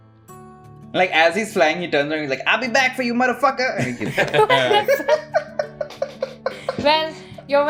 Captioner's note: laughter